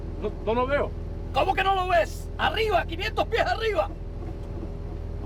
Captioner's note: speaking SPANISH